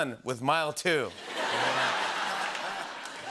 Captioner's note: laughter